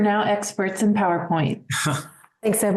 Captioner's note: chuckles